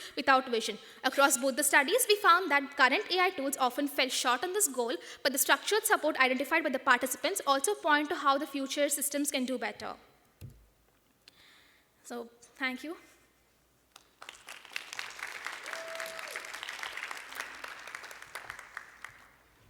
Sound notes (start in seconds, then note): 13.9 applause